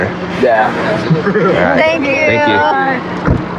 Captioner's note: lauaughghs